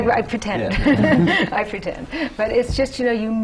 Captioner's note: laughter